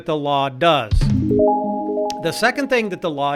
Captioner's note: pleasant chime